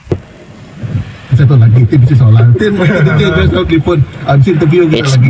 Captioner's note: radio Noise